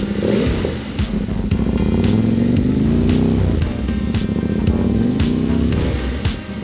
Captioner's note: Macan roaring